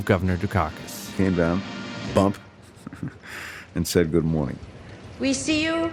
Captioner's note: chuckles